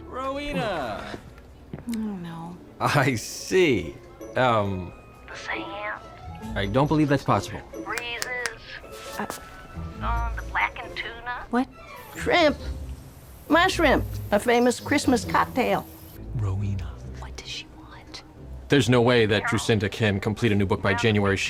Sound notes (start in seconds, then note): 7.9 snaps fingers